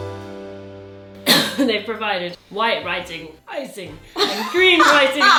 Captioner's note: warm festive music; coughs; laughs